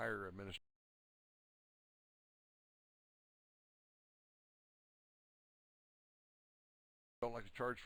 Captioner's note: audio drops